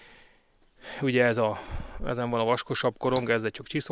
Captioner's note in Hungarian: sóhajtás